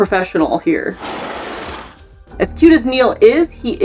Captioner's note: background music; sound effect